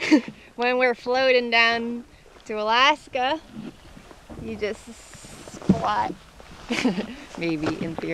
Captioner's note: chuckles